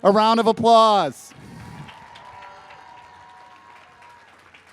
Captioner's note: crowd cheers